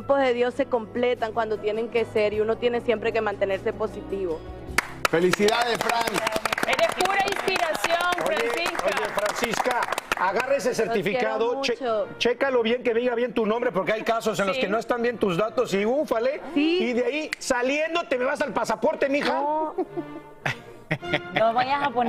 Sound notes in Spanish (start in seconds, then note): 10.3 aplausos